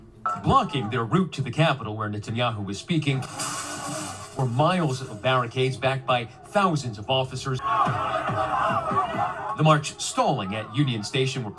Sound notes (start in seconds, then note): 3.3 protest sounds; 7.7 crowd shouting